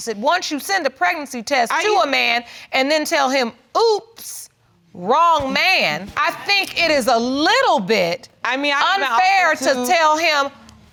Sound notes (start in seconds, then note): none